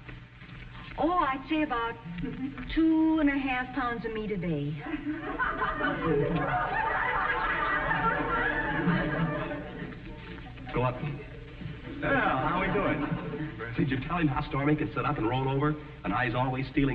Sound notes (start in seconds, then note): 8.0 audience snickering